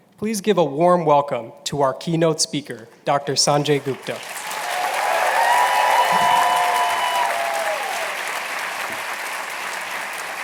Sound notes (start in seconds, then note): 3.8 applause and cheering